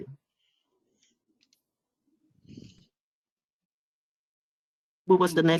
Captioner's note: 5 seconds pause